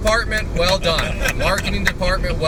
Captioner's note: clapping